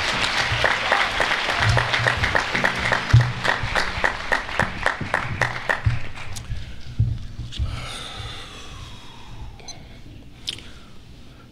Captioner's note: applause